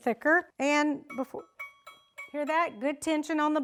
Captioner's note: tapping